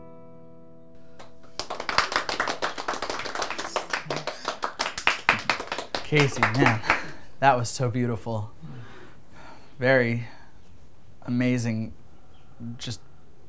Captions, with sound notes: (group applauds) - Casey, man, that was so beautiful. Very amazing, just prettiness.